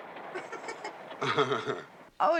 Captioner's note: howard, then doug giggles